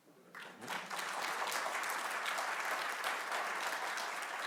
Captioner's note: audience clapping